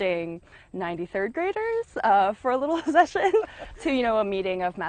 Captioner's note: laughs